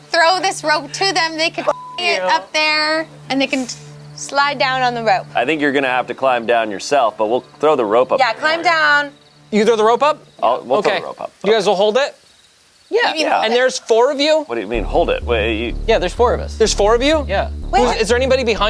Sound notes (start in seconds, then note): 1.6 beeps